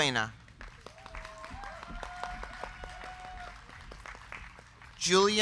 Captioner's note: crowd clapping; crowd cheering